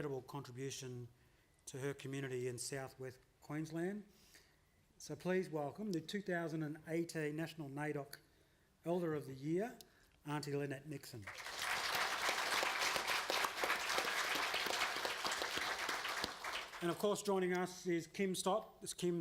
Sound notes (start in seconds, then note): 11.2 applause